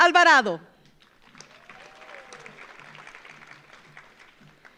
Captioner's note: audience applauds